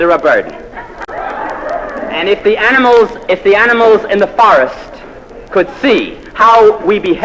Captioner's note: laugh